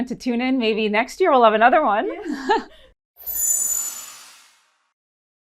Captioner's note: laughing